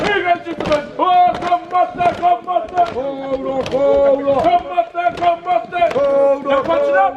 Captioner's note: group begins chanting call and response